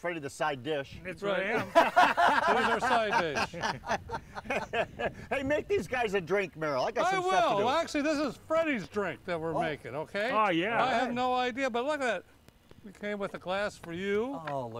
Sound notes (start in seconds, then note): 4.1 laughter; 5.6 laughing